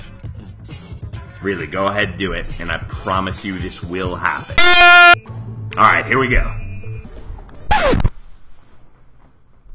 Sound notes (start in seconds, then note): 4.6 ear rape yelling; 7.7 record scratch